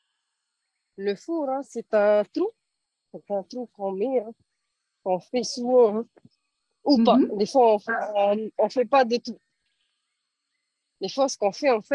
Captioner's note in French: En français